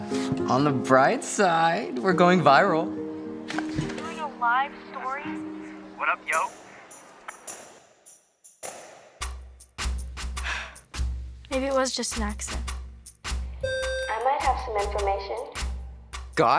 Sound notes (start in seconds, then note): 10.4 sighs; 13.5 intercom beeps